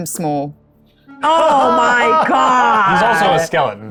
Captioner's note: laughing